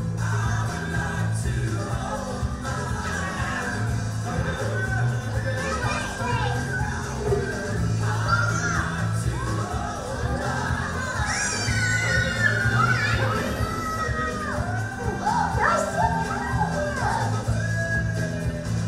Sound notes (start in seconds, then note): 5.8 children yelling; 11.7 children yelling; 16.0 voiceover